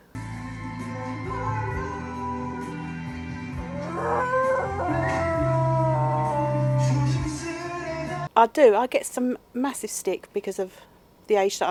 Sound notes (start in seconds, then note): 0.1 foreign music; 3.6 dog howling